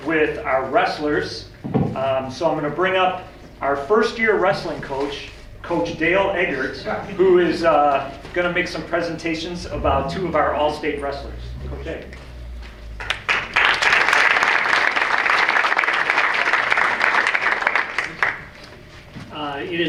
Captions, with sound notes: with our wrestlers. So I'm gonna bring up our first-year wrestling coach, Coach Dale Eggert, who is gonna make some presentations about two of our All-State wrestlers. Coach Eggert. (audience applauds)